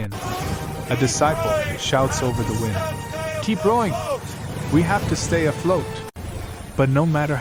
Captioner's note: shouts over the wind